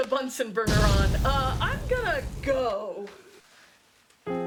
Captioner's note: bang; explosions; gentle piano music